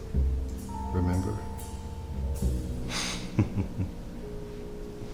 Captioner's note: chuckles